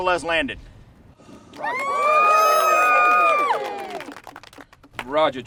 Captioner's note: cheers and applause